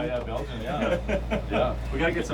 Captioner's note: man laughs